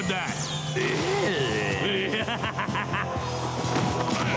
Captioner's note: laughing